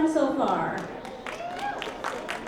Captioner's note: applause